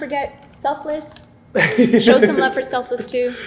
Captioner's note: laughs